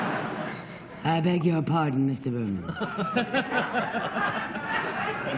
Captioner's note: low-pitched; laughter